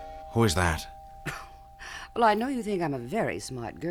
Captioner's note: doorbell rings